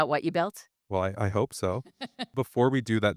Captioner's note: chuckles